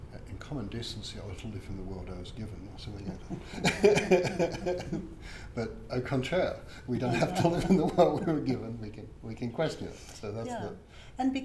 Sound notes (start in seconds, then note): 2.9 speaks quietly; 3.0 laughing; 5.7 speaking in foreign language